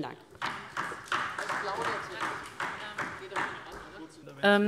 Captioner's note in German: Beifall DIE LINKE